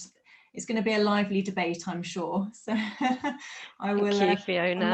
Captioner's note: chuckles